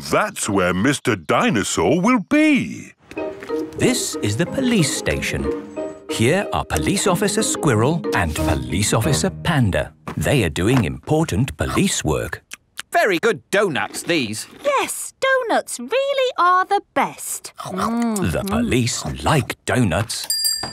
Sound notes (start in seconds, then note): 13.7 munching